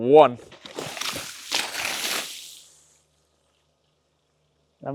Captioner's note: water splashing